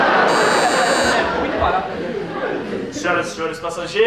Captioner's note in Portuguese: campainha